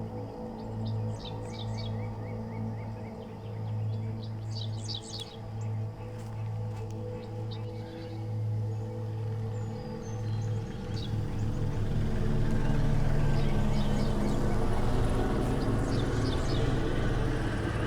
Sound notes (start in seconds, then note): 11.0 helicopter chopping; 11.1 dramatic music